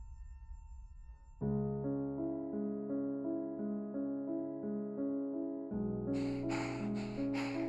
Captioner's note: Abby pants